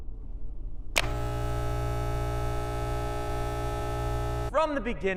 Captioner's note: shaver buzzing